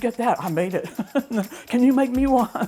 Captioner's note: chuckles